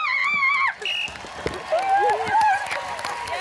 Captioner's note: screams; blows whistle; applause